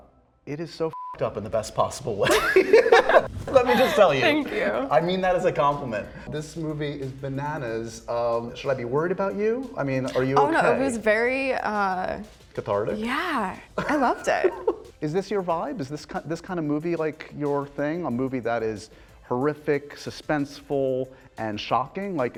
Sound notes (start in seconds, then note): 2.2 laughter